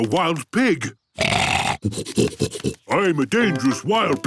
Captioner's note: snorting